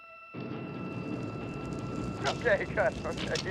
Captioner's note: stone scraping